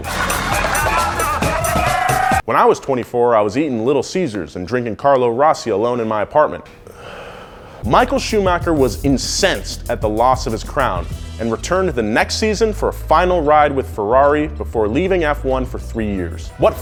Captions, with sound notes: (FESTIVE MUSIC) When I was 24 I was eating Little Caesars and drinking Carlo Rossi alone in my apartment. (SIGHS) Michael Schumacher was incensed at the loss of his crown, and returned the next season for a final ride with Ferrari before leaving F1 for 3 years.